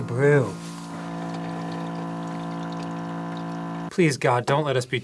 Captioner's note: loud mechanical humming